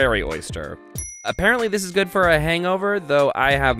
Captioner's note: dings